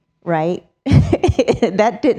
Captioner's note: chuckles